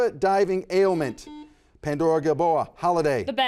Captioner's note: buzzer buzzes